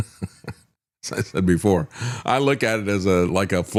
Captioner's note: laughs